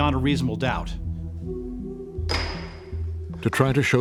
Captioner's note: gavel bangs